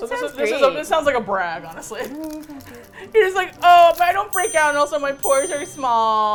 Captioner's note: laughs